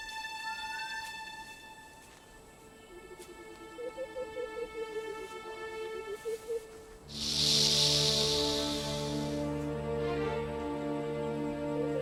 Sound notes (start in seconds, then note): 3.5 ominous music; 3.5 snake hissing